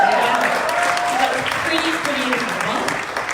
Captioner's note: crowd applauding